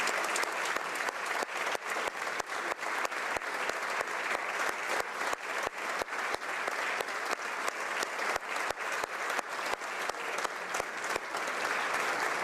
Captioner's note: applause